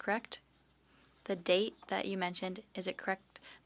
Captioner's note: speaking French